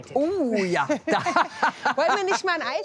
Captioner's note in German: lachen